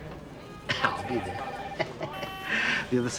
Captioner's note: laughs